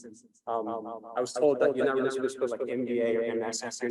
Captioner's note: echoing